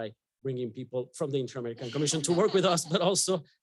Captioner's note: audience laughing; chuckles